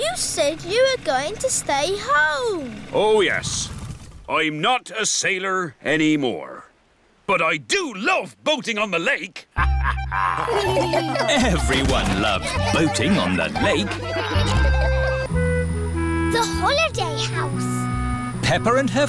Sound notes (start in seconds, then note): 9.5 chuckles; 9.6 all laugh